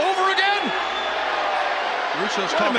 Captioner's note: audience boos